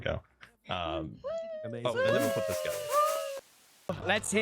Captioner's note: crowd cheers